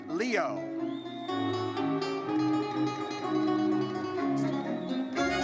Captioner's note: audience whistles